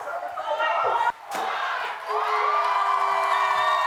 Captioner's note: crowd cheering